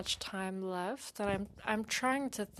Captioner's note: speaking in French